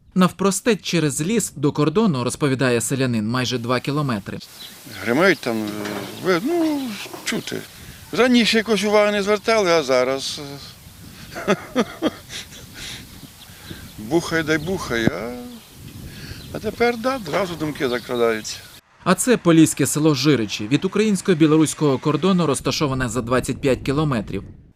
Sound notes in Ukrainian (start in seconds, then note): 11.2 Сміється